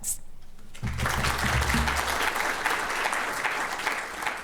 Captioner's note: audience applause